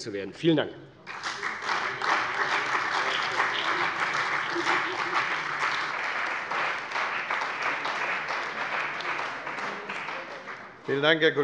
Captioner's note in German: Beifall bei der CDU und dem BÜNDNIS 90/DIE GRÜNEN